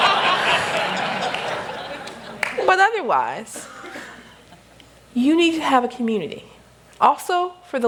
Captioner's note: laughter